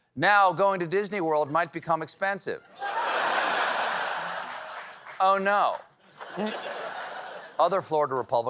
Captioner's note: laughter